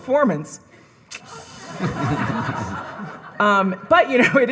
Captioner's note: audience laughing